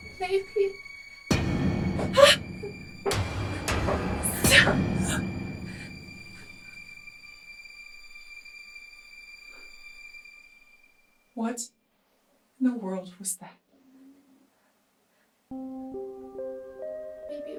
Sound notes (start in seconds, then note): 1.3 distant thud; 2.1 Kathryn gasps; 3.2 thuds intensify; 15.5 dark music